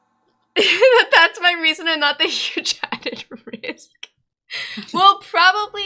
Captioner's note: reading chat, laughing